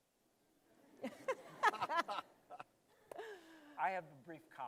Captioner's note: laughter